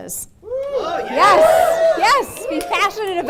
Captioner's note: audience screaming